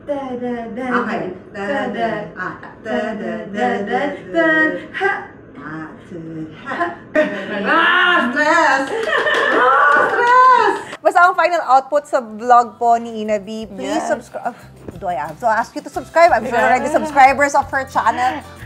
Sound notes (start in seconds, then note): 9.4 laughs; 12.9 claps excitingly